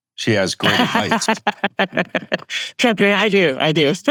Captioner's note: laughs